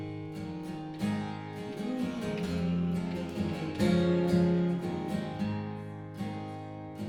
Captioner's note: humming